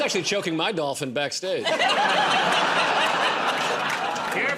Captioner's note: laughter